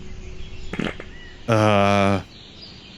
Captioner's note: farts